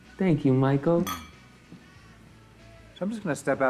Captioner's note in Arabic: كؤوس تصطدم